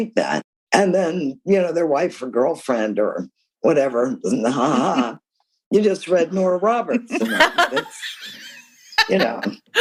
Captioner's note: laughter